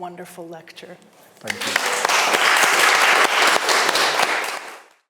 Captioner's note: audience applauding